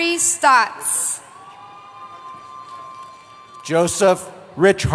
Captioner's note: cheering